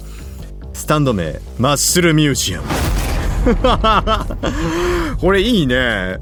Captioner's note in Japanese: 笑い